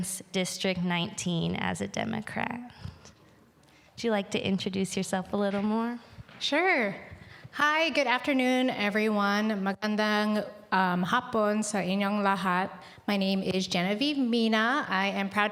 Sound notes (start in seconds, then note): 12.1 speaking indigenous language